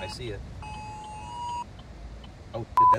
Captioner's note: EAS tones